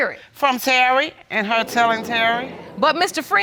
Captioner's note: audience exclaiming